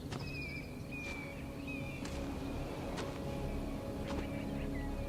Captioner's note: birds Chirping